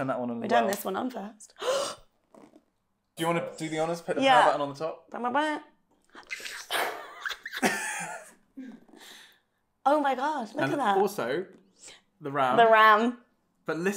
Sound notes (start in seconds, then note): 1.6 gasps; 6.2 squeals; 6.7 laughter